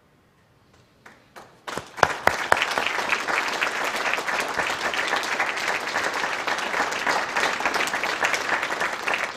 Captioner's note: applause